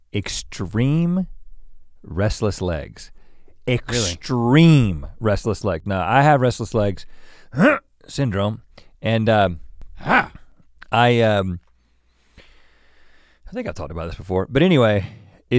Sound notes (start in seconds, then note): 7.3 grunts; 9.8 Link grunts